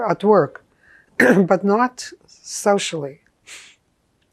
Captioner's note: clears throat